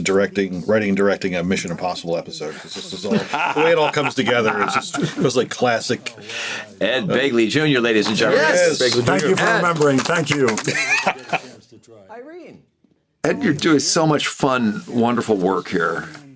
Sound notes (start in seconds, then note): 3.0 laughs; 10.4 chuckles